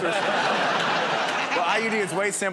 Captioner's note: laughter